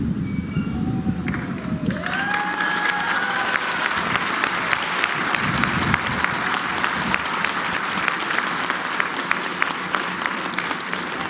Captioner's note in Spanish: aplausos